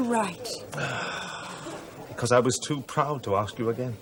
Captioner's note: sighs